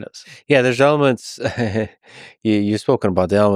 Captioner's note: laughs